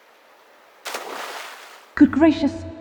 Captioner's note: splash ♫